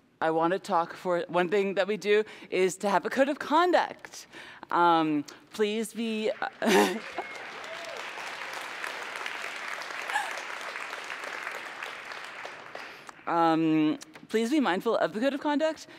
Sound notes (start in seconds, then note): 10.7 applause